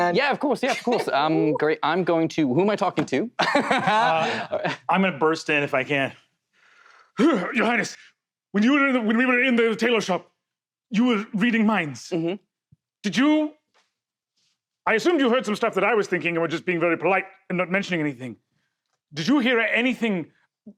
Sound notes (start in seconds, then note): 3.4 typical Andhera anxious laugh